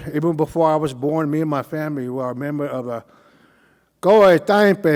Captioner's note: speaking Cauijoga